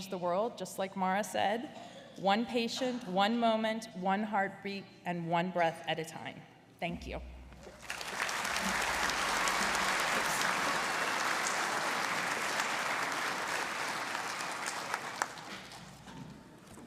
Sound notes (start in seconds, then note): 7.7 audience applauding